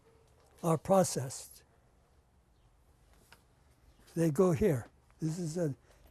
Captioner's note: pauses for 3 seconds